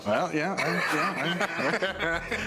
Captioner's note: laughter